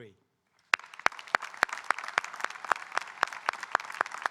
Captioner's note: audience applauding